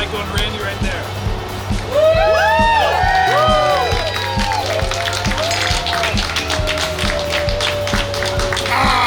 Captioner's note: cheering & Clapping